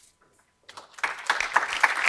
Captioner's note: applause